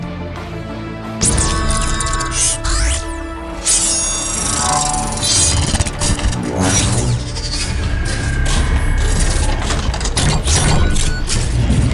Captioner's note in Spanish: Sonidos mecánicos